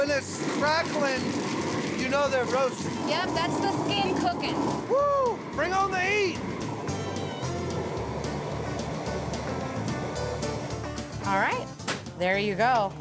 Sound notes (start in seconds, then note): 0.0 crackling sound; 6.7 whooshing sound